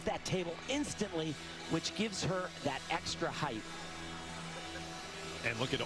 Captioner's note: cheers